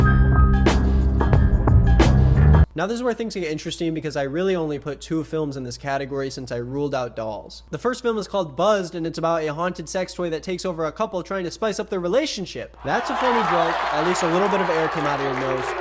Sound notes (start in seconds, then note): 0.1 haunting jazz music; 12.8 audience cheering